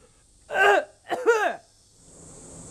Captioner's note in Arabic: سعال